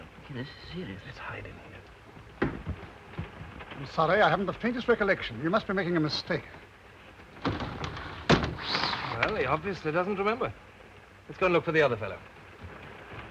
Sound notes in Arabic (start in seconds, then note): 7.3 صوت الباب ينغلق